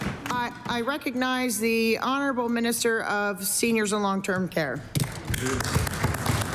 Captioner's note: applause